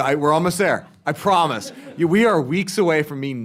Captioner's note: laughter